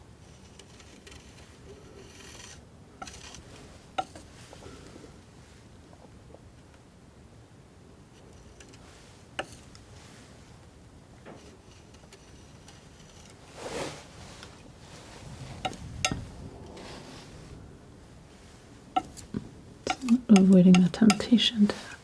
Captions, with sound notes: (tapping) (tapping) (tapping) (tapping) (tapping) (tapping) (tapping) (tapping) (tapping) (tapping) Avoiding the temptation to